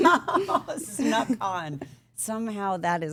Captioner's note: woman laughing